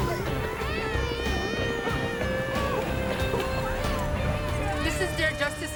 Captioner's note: helicopter thrumming